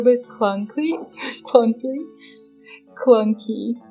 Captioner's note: laughs